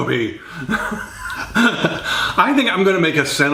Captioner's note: laughing